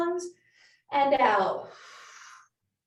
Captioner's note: exhales loudly